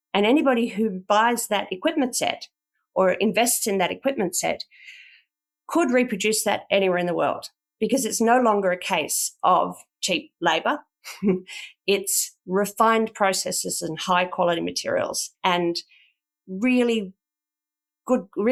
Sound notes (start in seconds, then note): 11.1 chuckles